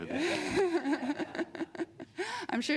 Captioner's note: chuckles